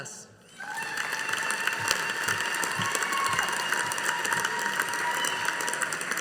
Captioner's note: audience applauding